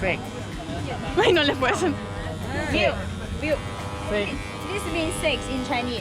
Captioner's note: speaking foreign language